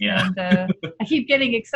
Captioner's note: laughing